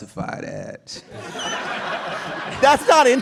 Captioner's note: laughter